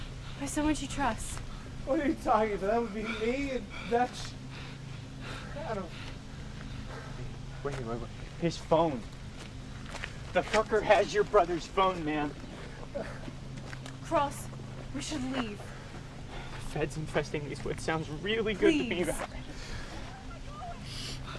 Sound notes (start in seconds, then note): 12.9 Cross cries